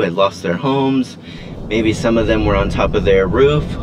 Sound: howling wind

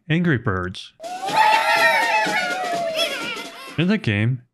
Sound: crowd cheering

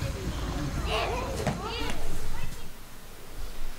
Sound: children running, playing, laughing

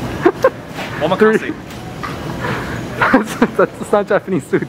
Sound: speaks foreign language

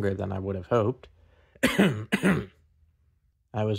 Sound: exaggerated throat-clearing

